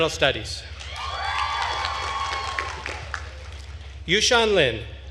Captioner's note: attendees cheering and applauding